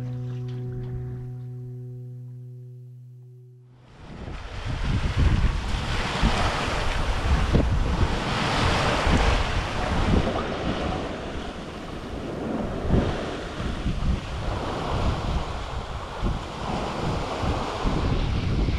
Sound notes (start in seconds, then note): 3.9 water splashing; 3.9 wind blowing